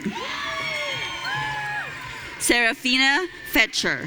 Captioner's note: audience cheering